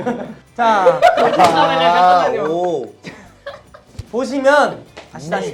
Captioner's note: cracked up